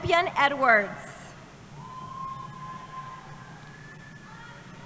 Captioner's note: cheering